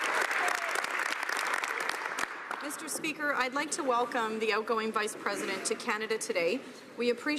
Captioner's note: some Applause